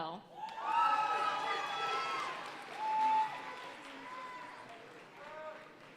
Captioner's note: audience cheering and applauding